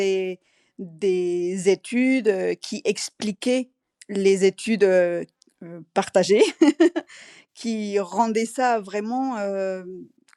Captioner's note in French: rires